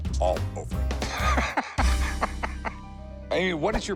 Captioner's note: laughs